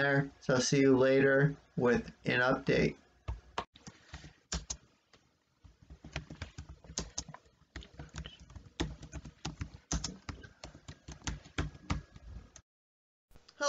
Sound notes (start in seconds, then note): 7.7 tapping on the keyboard